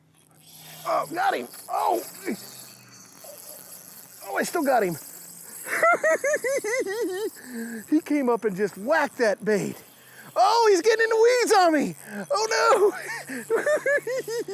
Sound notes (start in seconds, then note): 5.6 laughing; 12.3 laughing